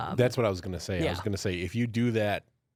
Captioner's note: none